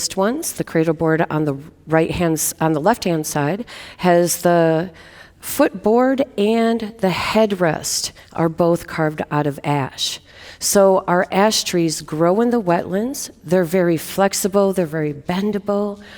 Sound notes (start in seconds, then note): none